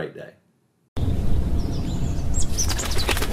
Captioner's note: birds chirping; air whooshing